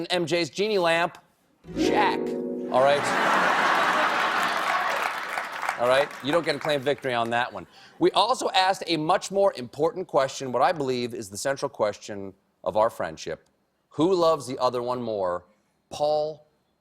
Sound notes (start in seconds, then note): 3.0 laughter; 3.1 applause